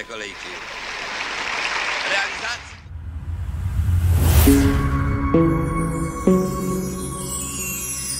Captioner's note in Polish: Aplauz